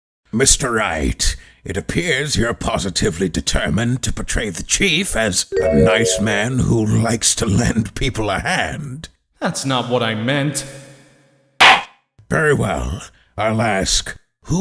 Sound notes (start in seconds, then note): 11.4 gavel slams!